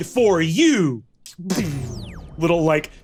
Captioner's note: vocalizes a screen blip